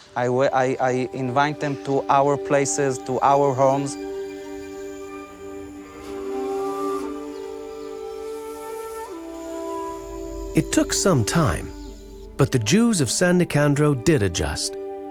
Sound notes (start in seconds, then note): 4.4 birds chirping; 4.4 gentle music